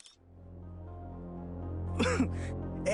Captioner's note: KSHITIJ : Coughing